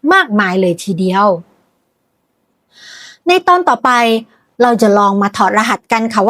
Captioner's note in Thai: เสียงถอนหายใจ